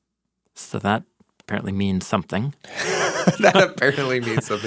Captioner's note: chuckles